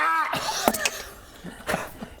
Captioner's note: pop